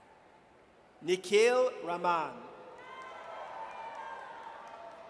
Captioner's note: audience cheers